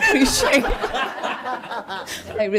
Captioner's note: laughter